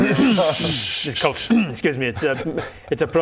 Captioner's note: laughs; cough